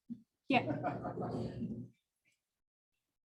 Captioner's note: light chuckles